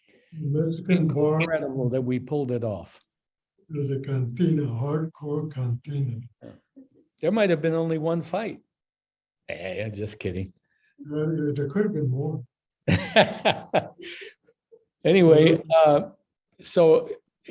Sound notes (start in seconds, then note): 12.8 laughs